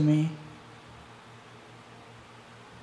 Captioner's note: fan blowing